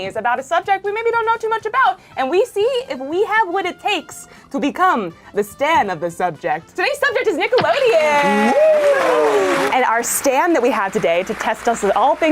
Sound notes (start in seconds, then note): 7.8 audience applauds; 7.9 cheers